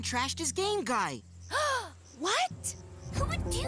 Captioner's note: gasp